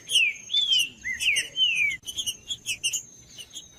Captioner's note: trinca ferro cantando